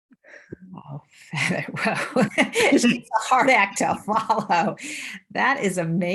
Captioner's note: laughs